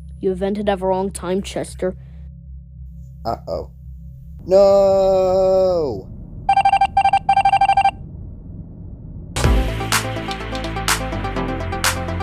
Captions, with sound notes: - You vented at the wrong time, Chester. - Uh-oh. Noooooo! (screen beeping) (outro music)